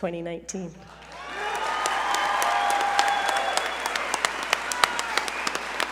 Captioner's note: audience cheer and applaud